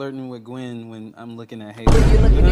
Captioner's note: door slamming